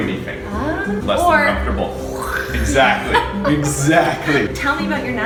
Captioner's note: makes knife cutting sound